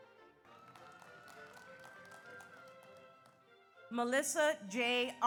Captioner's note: audience applauds; audience cheers